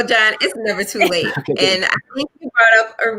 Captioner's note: laughs